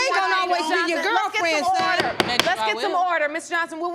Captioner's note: gavel pounding